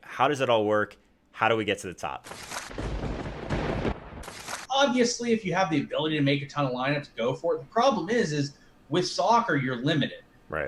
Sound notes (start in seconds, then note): 2.6 thunder crackling